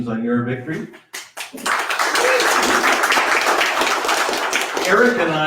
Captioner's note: audience applauds